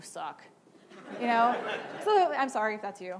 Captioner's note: laughing